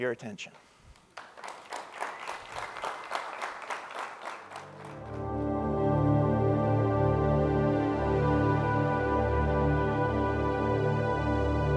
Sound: applause

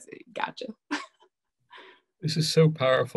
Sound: laughs

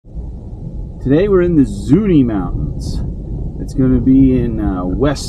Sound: truck noises

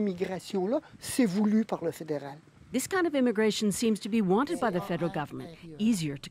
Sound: speaking French

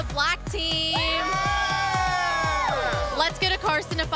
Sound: cheering

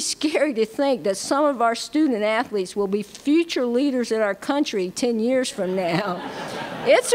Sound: laughter

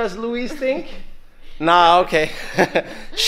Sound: laughing

